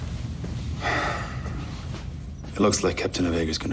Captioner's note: sighs